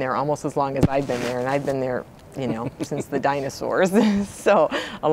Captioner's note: laughing